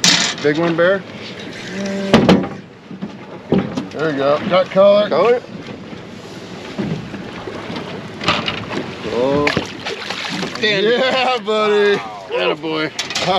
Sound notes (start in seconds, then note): 0.0 reel cranking; 10.1 fish splashing; 13.1 chuckling